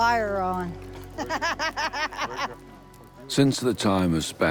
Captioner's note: laughs